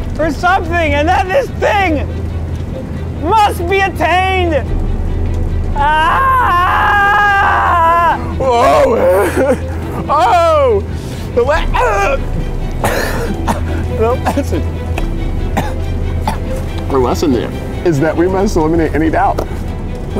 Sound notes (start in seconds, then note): 4.9 dramatic music; 4.9 fire crackling; 5.7 yelling; 11.7 sputtering; 12.8 coughing